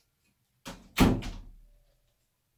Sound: door close sound

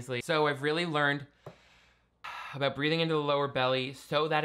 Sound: inhales

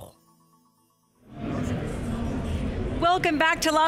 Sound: crowd murmuring

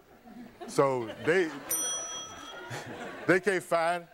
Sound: bell dinging

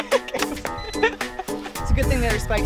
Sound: beeping

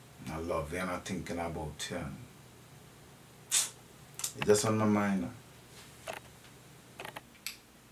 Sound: suck teeth

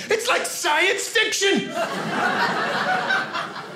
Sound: audience laughing

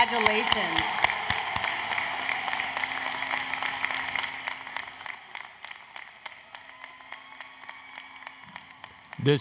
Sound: applause, Cheering

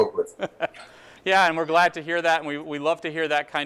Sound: laughs

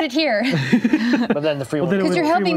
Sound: laughing

